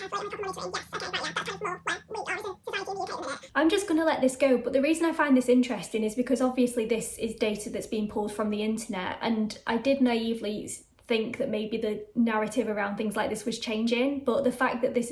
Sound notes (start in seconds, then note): 3.6 sped up talking